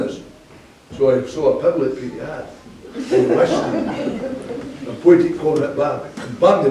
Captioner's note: laughing